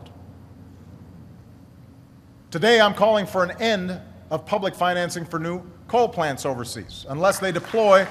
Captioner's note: applause